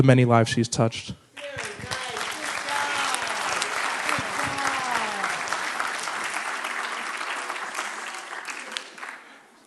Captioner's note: applause